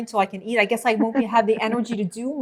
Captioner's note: laughing